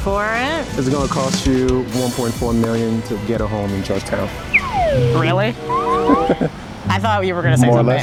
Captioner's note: whistling; laughing